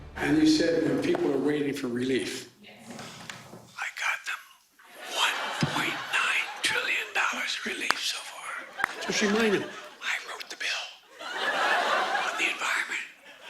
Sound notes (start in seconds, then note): 3.1 whispering